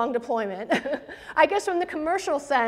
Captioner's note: presenter laughs